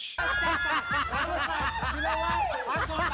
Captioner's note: laughing